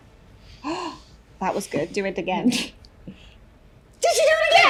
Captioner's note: gasp